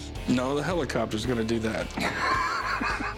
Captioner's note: laughs